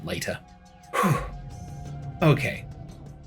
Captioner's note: exhales